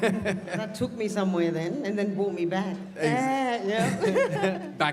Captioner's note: laughs